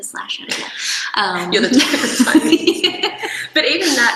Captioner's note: laughter drowns out speaker